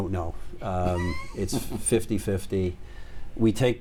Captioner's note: chuckles